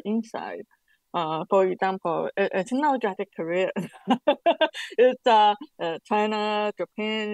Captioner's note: questioner Laughter